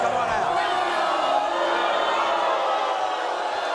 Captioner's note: audience boos